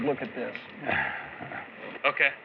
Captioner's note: chuckles